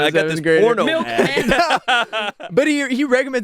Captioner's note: everyone laughs